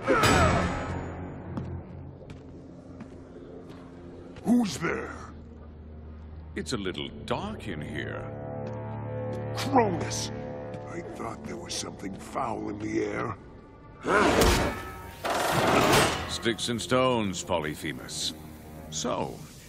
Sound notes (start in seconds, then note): 1.3 footsteps; 14.3 grunting